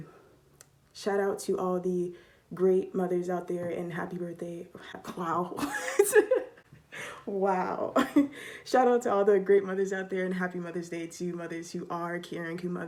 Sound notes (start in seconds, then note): 5.6 laughs